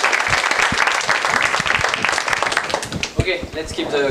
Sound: applause

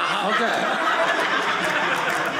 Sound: audience laughing

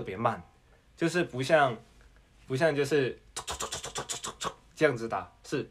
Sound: typing? noises

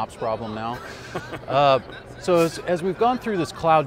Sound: laughs

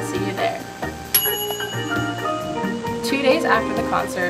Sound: bell dings

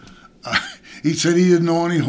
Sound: laughs

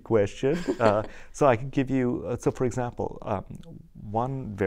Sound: laughter

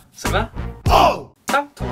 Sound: Cantonese

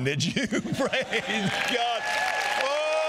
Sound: congregation applauding

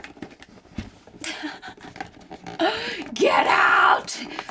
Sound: laughs

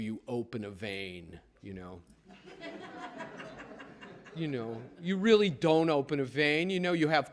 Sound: laughter

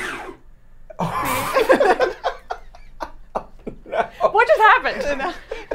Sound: all laughing

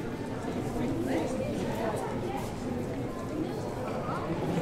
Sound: crowd chattering

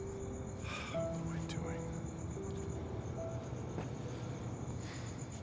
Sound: sighs

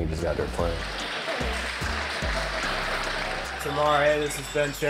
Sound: audience applauding

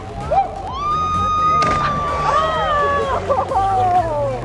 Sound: girl Screaming

